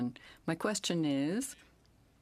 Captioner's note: speaking in French